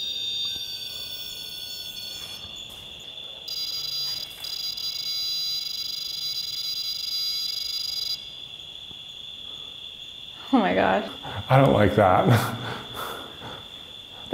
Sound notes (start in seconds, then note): 3.2 whining; 8.4 crickets chirping